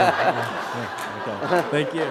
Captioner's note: laughter